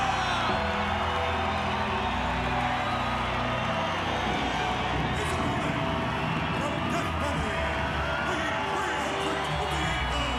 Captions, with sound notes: (sinister music continues) (crowd cheering continues) Entering the ring from Death Valley, weighing 328 pounds,